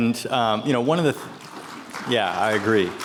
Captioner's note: attendees applauding